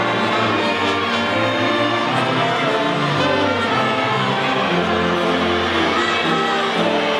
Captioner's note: audience faintly shouting